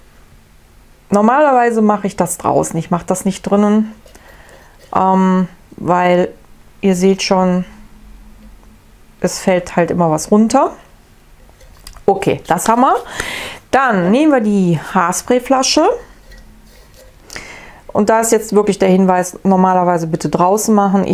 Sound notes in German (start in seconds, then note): none